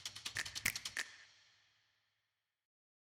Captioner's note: silence